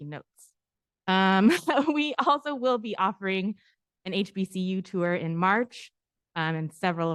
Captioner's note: laughter